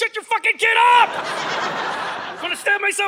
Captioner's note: audience laughing